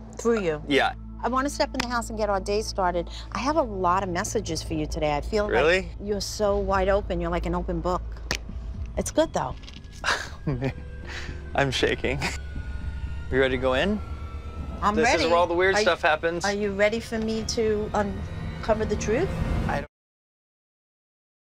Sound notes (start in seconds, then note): 10.0 laughs